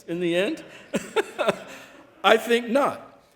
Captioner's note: laughing